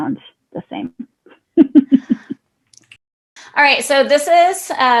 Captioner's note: laughing